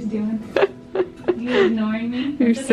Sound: laughs

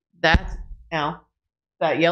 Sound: thud

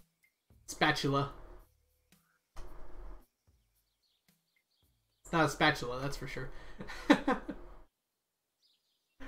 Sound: laughs

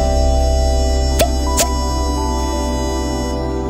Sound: cork popping

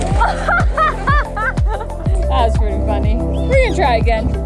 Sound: laughing

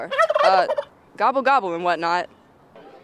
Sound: turkey gobbles

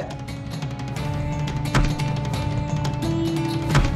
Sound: breaking lock

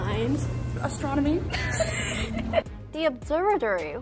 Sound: laughing

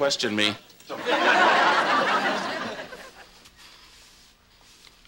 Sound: audience laughing

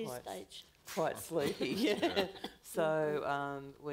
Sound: panelists laughing

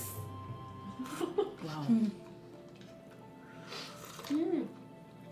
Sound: slurp

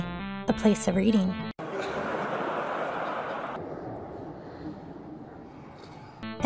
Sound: laugh track that slows down

